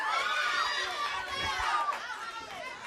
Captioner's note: crowd cheering